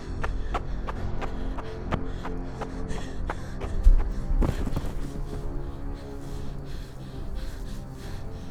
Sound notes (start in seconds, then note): 4.4 woman thuds